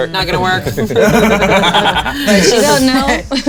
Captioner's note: players laughing